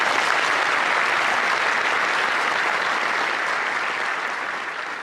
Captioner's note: applause